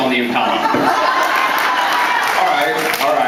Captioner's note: laughs, applauds